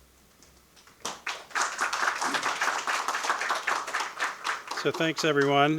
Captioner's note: audience applauding